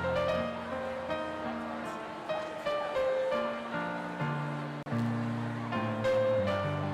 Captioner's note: crowd chattering; gentle piano music